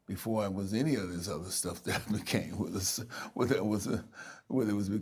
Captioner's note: laughing